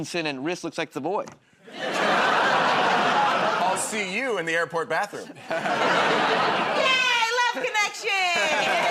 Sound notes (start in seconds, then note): 1.7 laughter